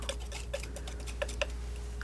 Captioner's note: crunching